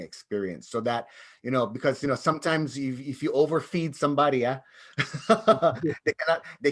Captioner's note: laughs